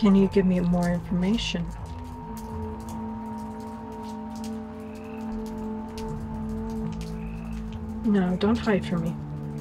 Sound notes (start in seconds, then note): 2.3 raindrops hitting gravel